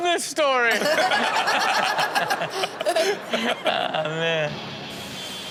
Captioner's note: everyone laughs